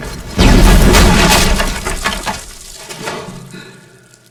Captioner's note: grenade exploding